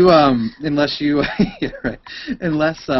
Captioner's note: laughs